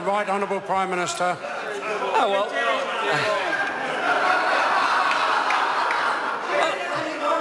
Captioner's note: members laugh